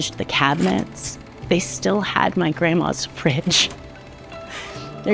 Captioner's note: projector shuffles